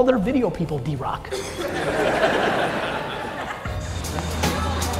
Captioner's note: audience laughing